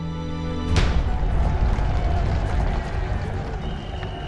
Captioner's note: crowd shouting